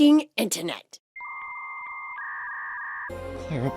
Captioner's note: dial-up noises